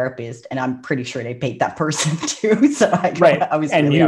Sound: laughs

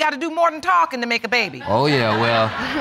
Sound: audience laughing

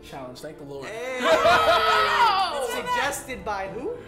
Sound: laughter

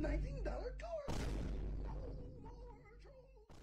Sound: smol vine boom

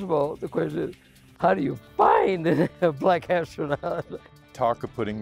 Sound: laughs

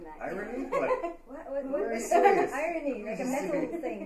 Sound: laughter

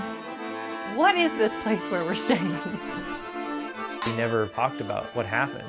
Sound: chuckles

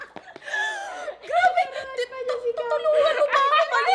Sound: laughing; gasps

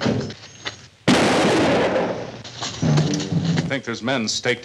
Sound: gun fires

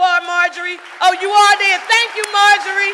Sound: audience applauding

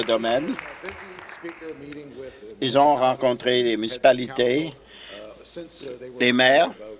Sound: applause

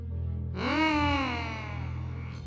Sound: Angry Luigi sounds

